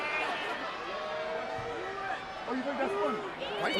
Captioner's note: crowd chatter